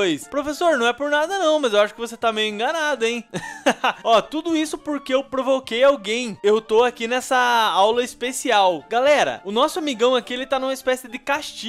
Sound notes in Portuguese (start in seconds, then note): 3.3 risos